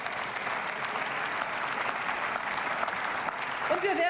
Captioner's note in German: Beifall